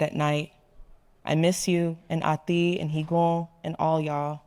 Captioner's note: speaking in foreign language